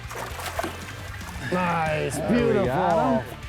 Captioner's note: water splashing